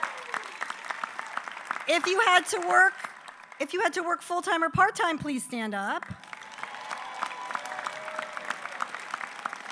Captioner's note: applause